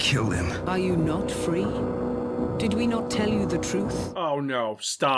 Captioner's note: mechanical voice